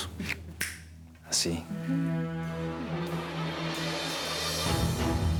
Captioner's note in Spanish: Chasquidos de dedos